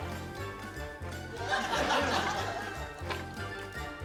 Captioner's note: laughter